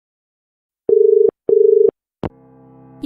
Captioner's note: dial tone